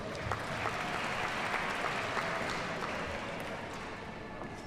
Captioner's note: audience applauds